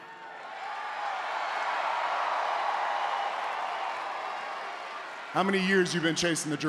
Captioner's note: applause